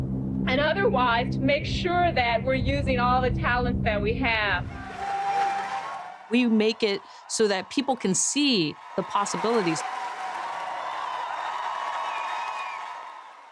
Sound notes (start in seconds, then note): 4.3 cheering; 9.4 cheering from Artemis I select